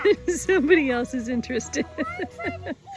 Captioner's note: laughs